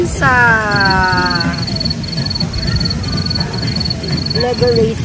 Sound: cricket sound

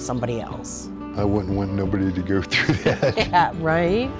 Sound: laughs

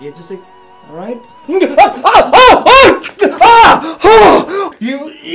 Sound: screaming

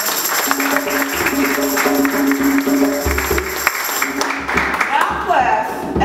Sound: applause, drumming and tambourine jingling

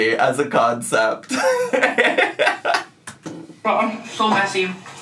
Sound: giggling

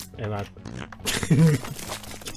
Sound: laff

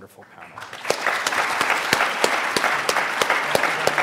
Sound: audience applauds

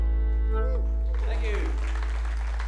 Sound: audience applauding

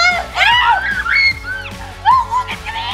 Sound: screams

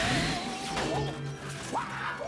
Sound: yelling

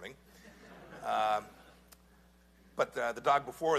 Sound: laughter

